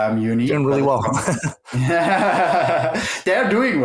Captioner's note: laughs